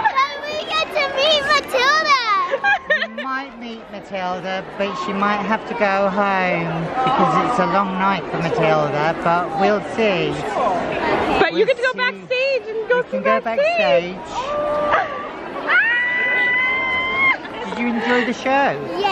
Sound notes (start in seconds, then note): 14.3 squeals